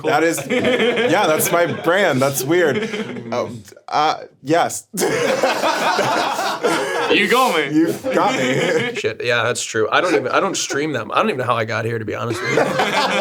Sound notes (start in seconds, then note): 4.9 streamers and laughing; 12.3 streamers laughing